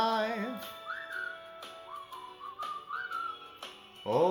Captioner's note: whistle again